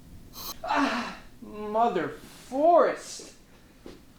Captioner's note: sizzle